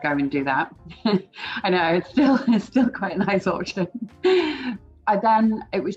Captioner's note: laughs